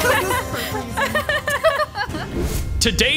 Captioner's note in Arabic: يضحك دراماتيكي